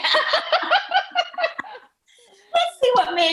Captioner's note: laughing